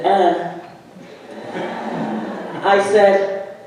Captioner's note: audience laughing